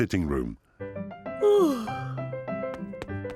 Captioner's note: yawns